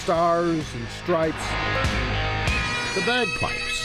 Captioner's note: plane engine roars